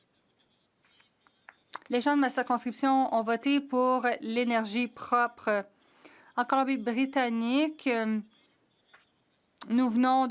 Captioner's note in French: voix de l'interprète